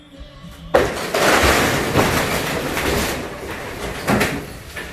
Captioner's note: house crashes